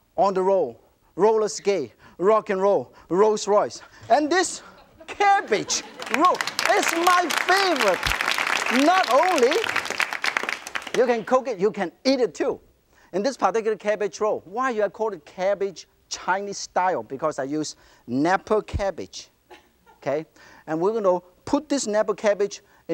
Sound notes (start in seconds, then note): 5.4 applause